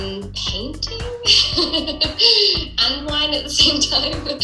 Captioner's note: laughing